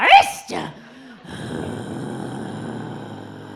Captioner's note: growls